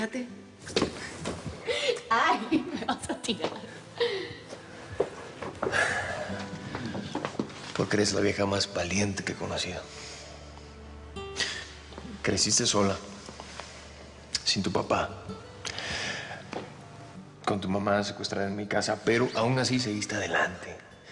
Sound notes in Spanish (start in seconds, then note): 3.6 Ríe; 7.1 El exhala